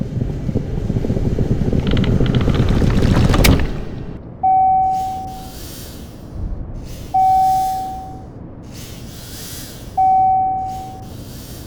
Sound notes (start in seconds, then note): 1.2 pattering getting closer; 4.8 Elevator dinging, Anxiety wheezing